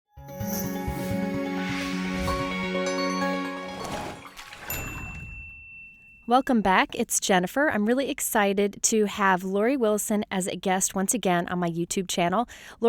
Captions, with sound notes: (happy instrumental music) (splash and ding) - [Voiceover] Welcome back, it's Jennifer. I'm really excited to have Laurie Willison as a guest once again on my YouTube channel.